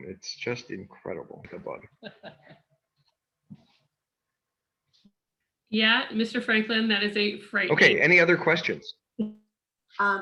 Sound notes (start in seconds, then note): 1.9 background laughter